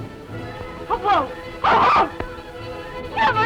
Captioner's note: screaming